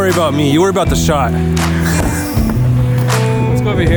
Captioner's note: laughs